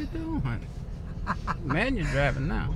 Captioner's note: laughing